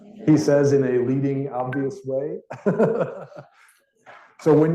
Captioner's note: laughs